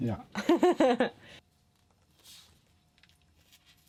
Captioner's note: laughing